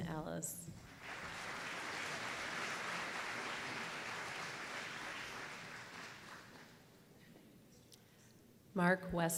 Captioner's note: applause